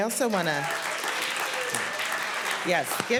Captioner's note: applause